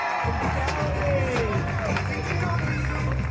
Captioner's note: people cheering